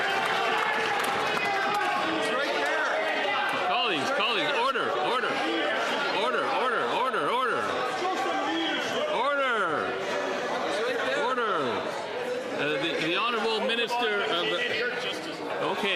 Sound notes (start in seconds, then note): 3.0 some Applause